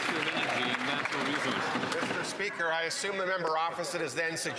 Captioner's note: some Applause